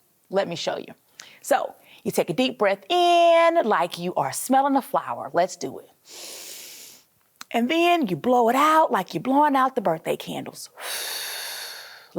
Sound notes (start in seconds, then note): 6.1 inhaling; 10.8 exhaling